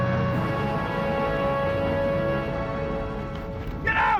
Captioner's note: engine revving